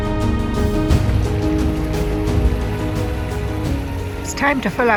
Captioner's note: continuous sound of creek